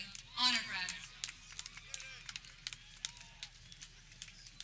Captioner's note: people clapping